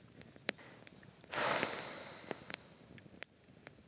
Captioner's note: bored sigh